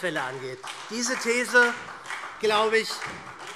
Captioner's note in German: Beifall SPD